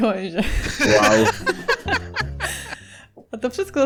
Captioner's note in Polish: śmiech